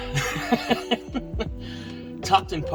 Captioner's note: laughs